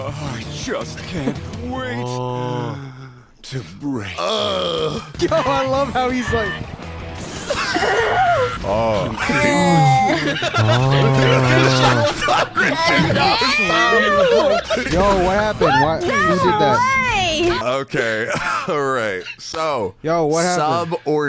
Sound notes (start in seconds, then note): 4.2 groaning; 7.6 groaning; 11.5 everyone laughing; 20.4 laughing